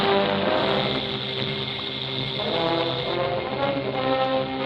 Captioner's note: dynamite fuse hissing